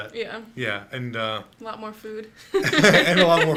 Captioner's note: both laughing